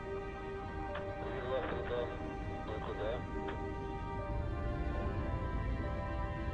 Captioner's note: man speaking in foreign language